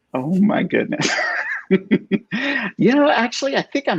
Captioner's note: laughs